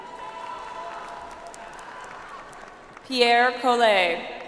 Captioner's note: audience applauds